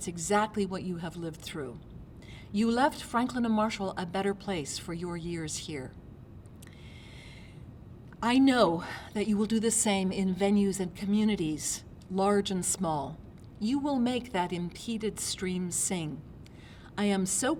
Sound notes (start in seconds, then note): none